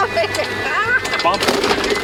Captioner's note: laughing